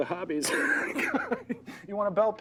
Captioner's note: laughing